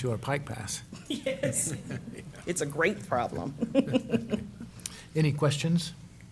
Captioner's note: laughs